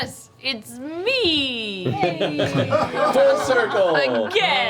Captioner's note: laughter